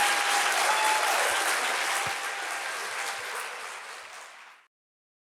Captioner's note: audience applauding and cheering